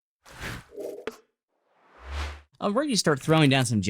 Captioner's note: swooshing